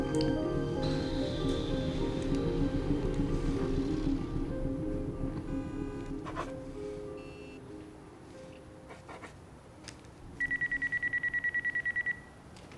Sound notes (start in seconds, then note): 10.4 phone ringing